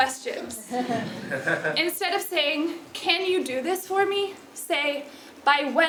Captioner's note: laugh